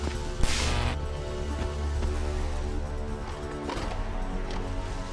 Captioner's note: electronic buzzing; tense instrumental music